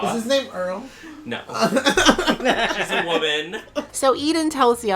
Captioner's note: laughter